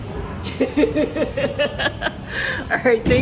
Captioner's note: laughs